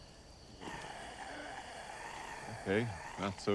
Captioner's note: grumbling